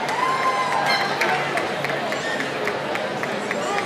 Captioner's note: cheering